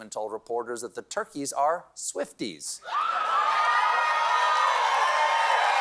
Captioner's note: cheering